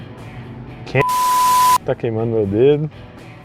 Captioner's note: beeep